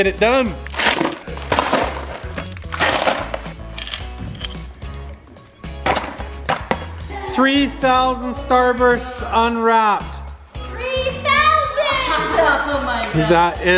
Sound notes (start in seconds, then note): 0.7 plooping; 7.3 cheering